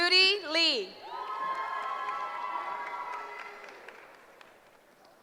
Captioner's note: cheering